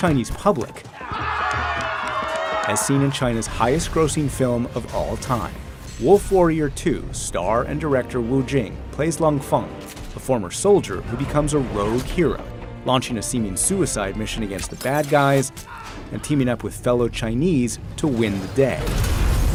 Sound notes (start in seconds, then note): 0.6 players cheering